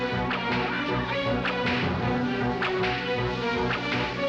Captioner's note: whip cracking; barking commands in strange language